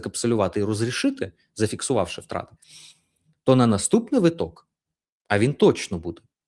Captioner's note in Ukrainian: сопіння